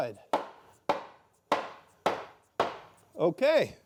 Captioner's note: hammer knocking